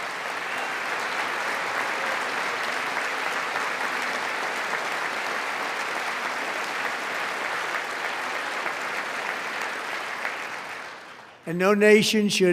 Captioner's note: applause